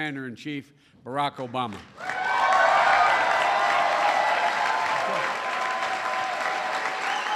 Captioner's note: applause